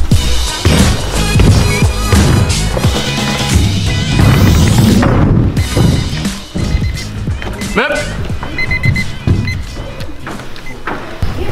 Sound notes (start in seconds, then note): 8.4 alarm beeping